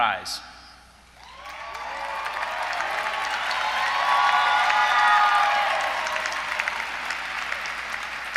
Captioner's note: applause